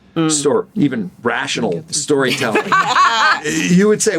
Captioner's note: laughter